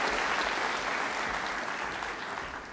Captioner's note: applause